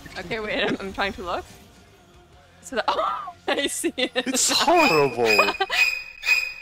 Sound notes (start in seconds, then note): 2.8 laughing; 4.6 "Psycho" screetching sound effect